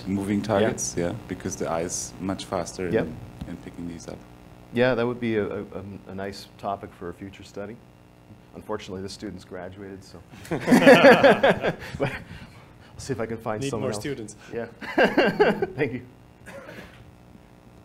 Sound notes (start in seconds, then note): 10.4 laughing